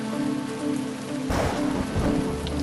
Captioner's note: thunder crashes